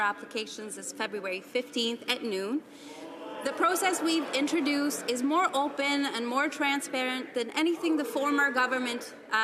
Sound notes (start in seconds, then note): 1.7 some Applause